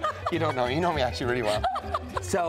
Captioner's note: laughing